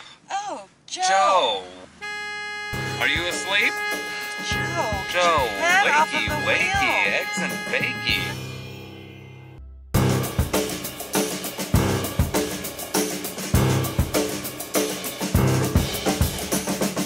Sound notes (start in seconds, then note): 2.0 horn blaring